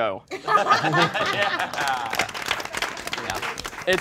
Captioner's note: all applauding